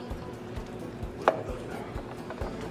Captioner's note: bottle thud on table